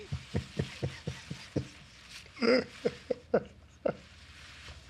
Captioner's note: laughter